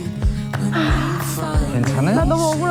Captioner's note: sigh